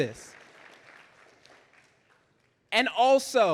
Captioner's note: audience applauding